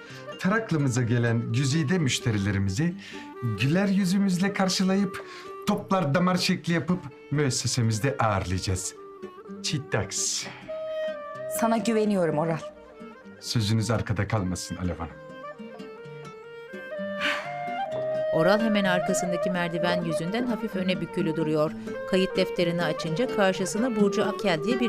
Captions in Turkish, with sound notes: Taraklı'mıza gelen güzide müşterilerimizi güler yüzümüzle karşılayıp... ...toplardamar şekli yapıp, müessesemizde ağırlayacağız. Çitaks. -Sana güveniyorum Oral. -Sözünüz arkada kalmasın Alev Hanım. (İç çekme sesi) (Müzik - Duygusal)